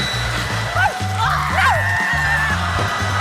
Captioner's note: laughter; celia screams